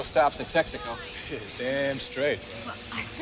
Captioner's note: laughs